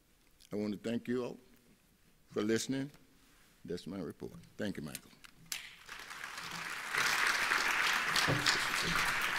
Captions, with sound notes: I wanna thank you all for listening. That's my report. Thank you madame. (applauding)